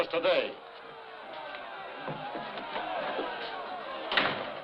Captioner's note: people yelling